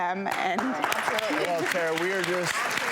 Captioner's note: audience applause